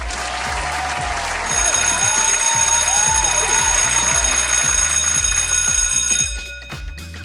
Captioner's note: school bell ringing